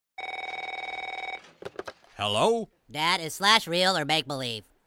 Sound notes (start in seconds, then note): 0.2 phone rings